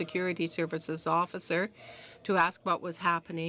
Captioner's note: speaking in french